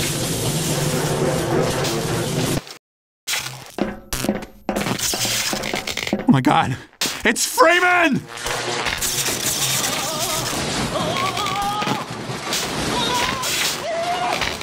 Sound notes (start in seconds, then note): 3.5 metal Footsteps; 4.8 sparks; 5.2 metal Footsteps